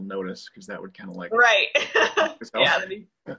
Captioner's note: laughs